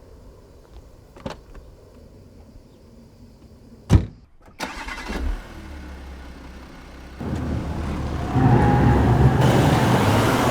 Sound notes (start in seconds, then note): 3.9 car door thudding; 4.9 car engine revving